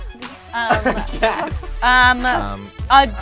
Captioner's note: laughs